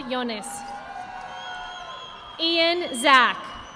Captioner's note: audience applauding